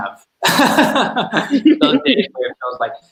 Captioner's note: laughs